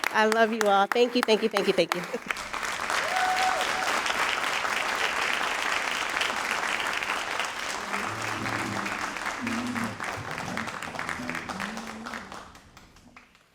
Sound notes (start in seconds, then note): 2.3 all applauding and cheering